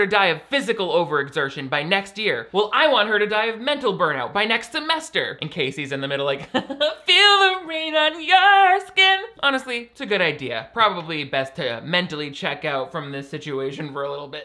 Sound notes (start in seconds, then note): 6.4 laughter